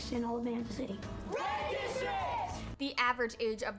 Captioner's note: Red district cheers